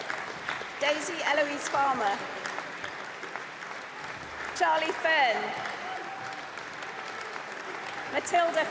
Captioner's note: applause; applause